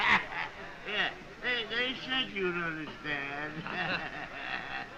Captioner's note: laughing